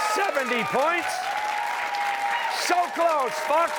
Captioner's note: cheers and applause